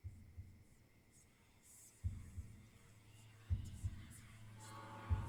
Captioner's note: eerie whispering